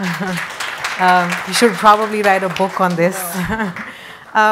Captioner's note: audience applauds; laughs